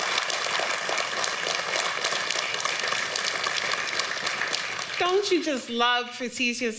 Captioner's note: applause